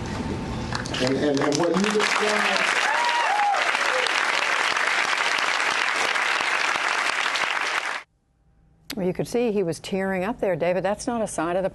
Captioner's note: cheering and applause